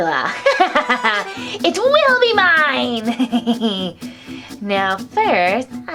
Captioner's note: laughs